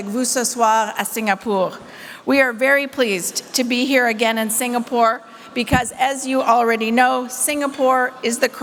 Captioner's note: French